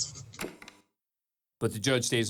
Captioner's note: tape stops